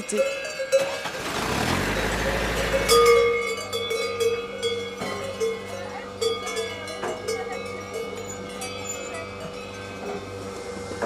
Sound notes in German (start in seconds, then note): 1.0 Motorenrattern